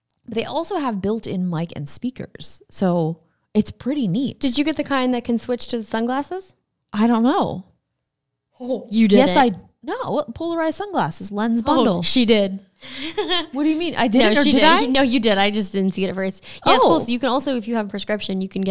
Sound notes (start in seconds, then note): 12.9 laughs